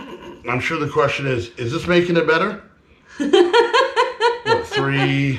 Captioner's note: laughing